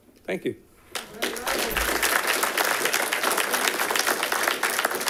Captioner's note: all clapping